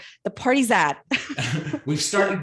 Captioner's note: laughs